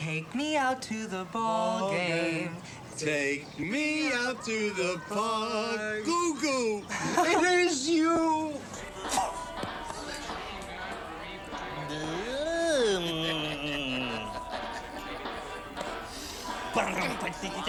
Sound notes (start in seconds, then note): 3.1 both singing; 11.5 making funny noises